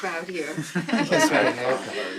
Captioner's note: all laughing